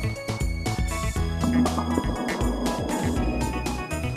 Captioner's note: deep pitch slow motion crashing